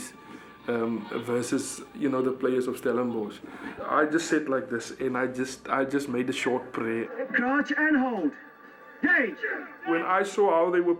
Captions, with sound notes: versus the players of Stellenbosch. I just sat like this, and I made a short prayer. [SPEAKING ON TV] When I saw how they were playing